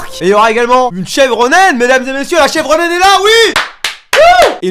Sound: applause

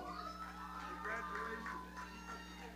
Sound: audience cheering

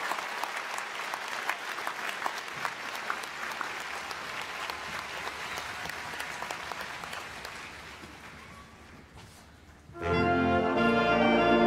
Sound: applause

